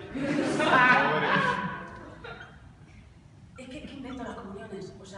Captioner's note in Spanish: Risas